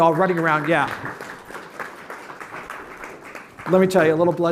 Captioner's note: applause